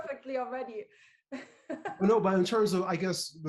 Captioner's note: laughs